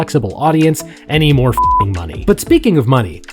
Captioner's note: beep